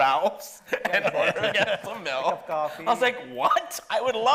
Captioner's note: laughing